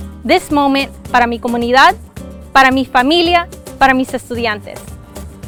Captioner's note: speaking foreign language